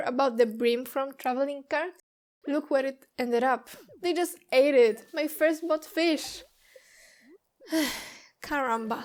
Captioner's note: sigh